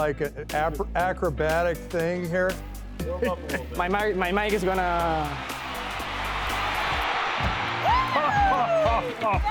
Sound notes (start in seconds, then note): 5.9 crowd cheering; 7.9 laughing